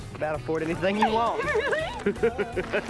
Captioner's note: laughing